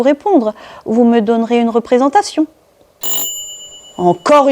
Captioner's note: sound of doorbell